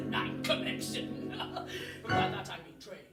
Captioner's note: laughs